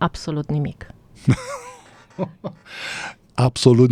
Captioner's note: laughter